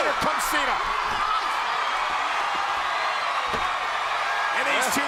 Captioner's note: crowd cheers